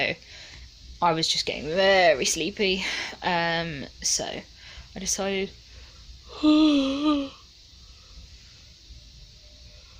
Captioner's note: yawns